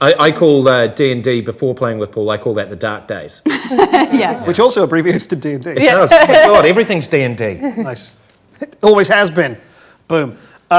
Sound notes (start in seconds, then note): 3.4 group laughs